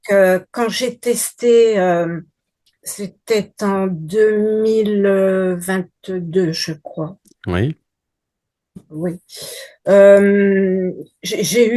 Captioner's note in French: grognement